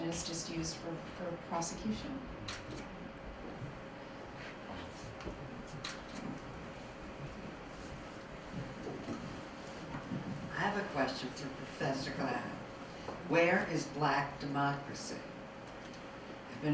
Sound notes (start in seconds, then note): 10.8 voiceover